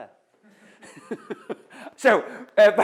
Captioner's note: laughs